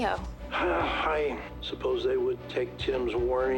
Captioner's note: grunts